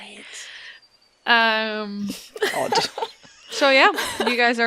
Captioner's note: laughter